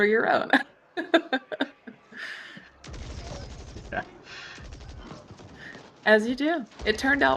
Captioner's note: laughs